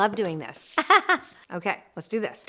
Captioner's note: laughs